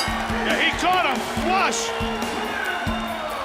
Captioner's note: bell ringing